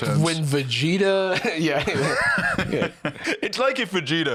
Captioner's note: laughs